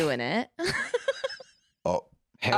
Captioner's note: laughs